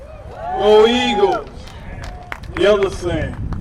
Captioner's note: cheer